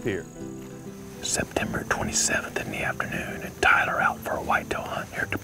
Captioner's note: whispering